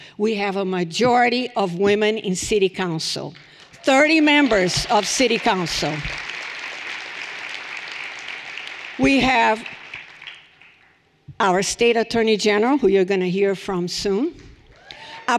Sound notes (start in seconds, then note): 6.2 everyone applauding